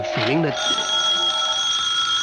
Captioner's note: phone ringing